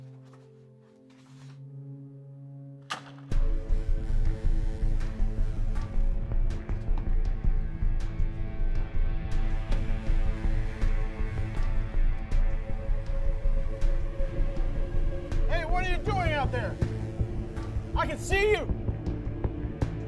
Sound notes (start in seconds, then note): 2.4 clattering; 3.9 music intensifies